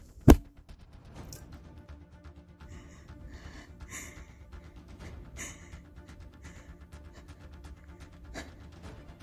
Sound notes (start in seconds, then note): 2.6 HEAVY breathing